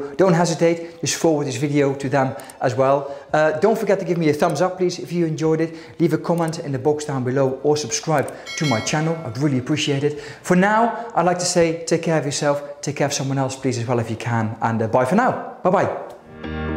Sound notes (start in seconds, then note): 8.3 bell ringing; 16.2 bright upbeat music